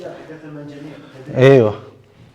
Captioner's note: Arabic